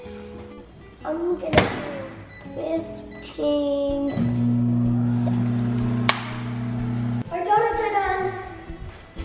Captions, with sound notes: I'm gonna go 15, (microwave heating) seconds. (clapping) (rubbing hands) Our donuts are done.